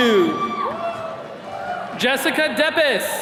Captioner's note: attendees cheering